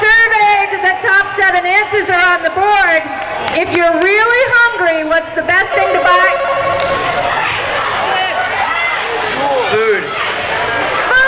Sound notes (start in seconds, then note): 5.8 buzzing